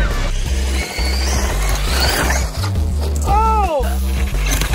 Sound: car buzzing; electronic music

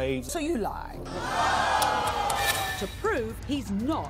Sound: audience gasps

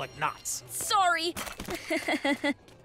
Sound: chuckles

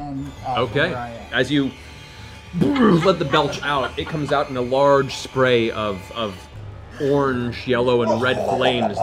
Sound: grunts

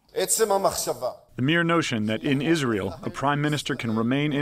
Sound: through translator

